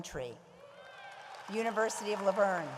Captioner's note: audience applauds